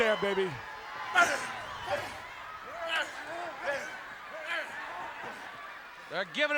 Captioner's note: audience chattering